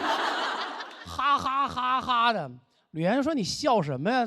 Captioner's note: laughing